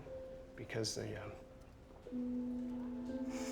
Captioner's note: sniffles